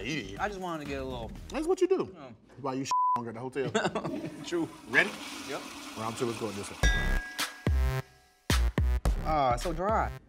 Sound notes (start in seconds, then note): 2.9 beep; 3.6 chuckles; 6.7 upbeat music